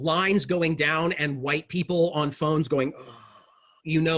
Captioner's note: sighs